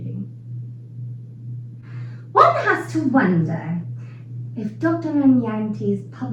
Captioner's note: English accent